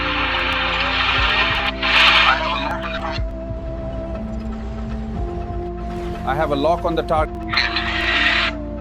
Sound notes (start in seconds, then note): 1.9 radio screeching; 7.4 radio screeching